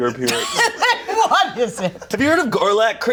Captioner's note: all laugh